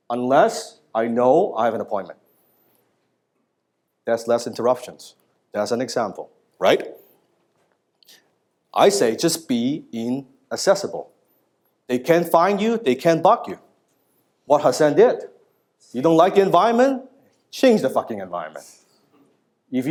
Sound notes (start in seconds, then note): none